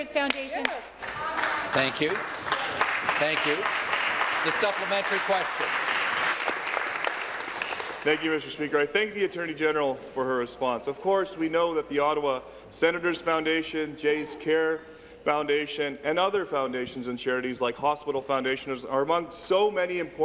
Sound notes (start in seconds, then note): 6.8 applause